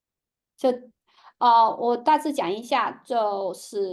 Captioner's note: speaking chinese